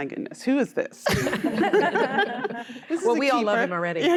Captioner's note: laughter